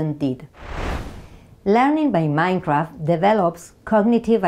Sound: slide whooshes

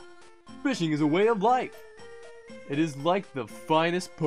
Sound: none

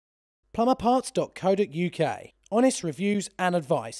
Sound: voiceover

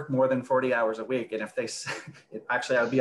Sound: laughs

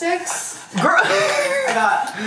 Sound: laughs

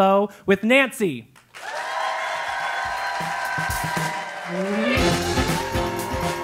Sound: applause

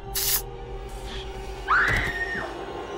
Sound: syringe zaps; Ryder screams

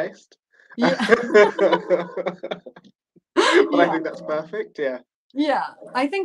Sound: laughter

